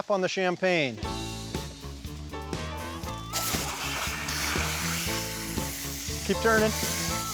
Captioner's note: water spraying